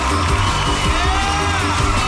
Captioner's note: audience cheering; upbeat music